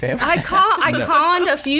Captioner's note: laughs